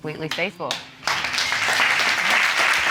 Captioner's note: audience applauding